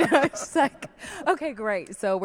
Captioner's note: laughs